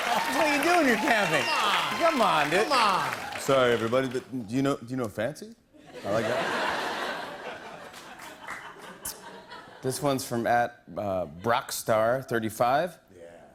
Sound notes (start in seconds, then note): 5.8 laughter